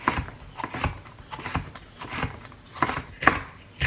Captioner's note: chopping